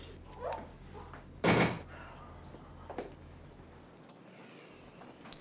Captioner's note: door thudding